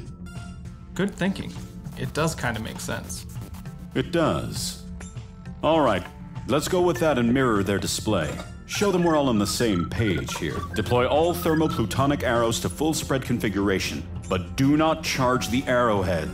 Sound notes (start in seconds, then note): none